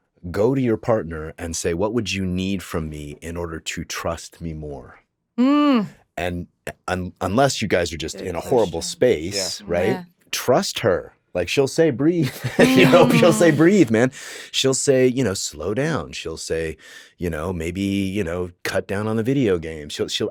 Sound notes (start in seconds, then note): 12.3 laughs